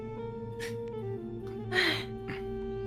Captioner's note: sighs